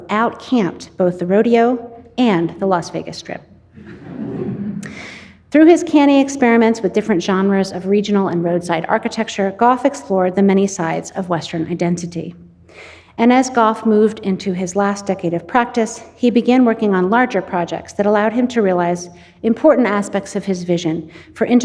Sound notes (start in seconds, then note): 3.8 audience laughing